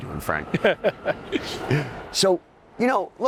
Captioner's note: laughing